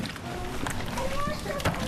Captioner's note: child babbling